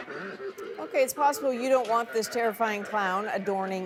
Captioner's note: evil laugh